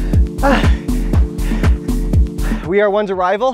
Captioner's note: deep sigh and heavy breathing